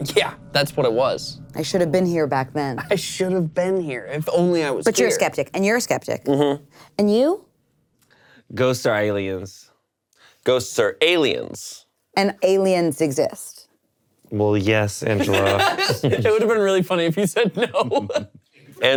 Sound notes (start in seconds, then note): 15.1 laughing; 17.4 laughs